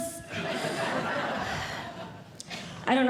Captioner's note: audience Laughing